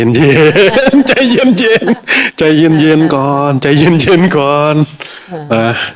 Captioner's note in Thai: เสียงหัวเราะ